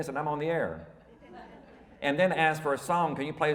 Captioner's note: audience laughing